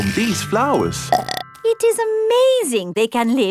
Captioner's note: burps